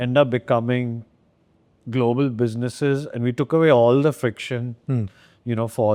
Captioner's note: none